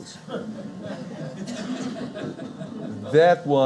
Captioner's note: audience laughing